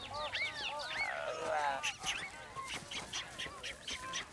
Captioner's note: monkey chatter continues